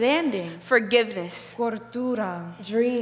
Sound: speaking in foreign language

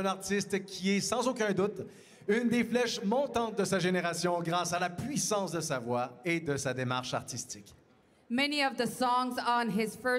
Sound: speaking French

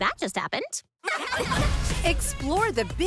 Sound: laughter

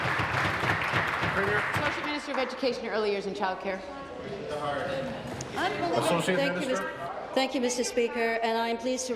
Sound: applause

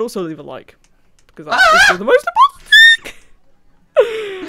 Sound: scream

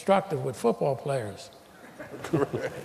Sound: laughter

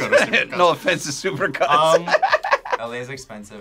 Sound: laughs

